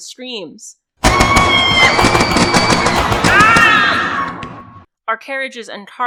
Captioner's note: gunfire, screams, and cracking bones and wood